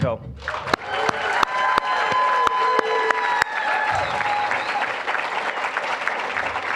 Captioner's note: applause, cheering; applause